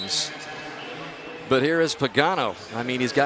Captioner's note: pa announcement